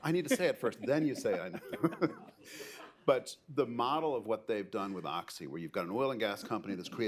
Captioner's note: laughter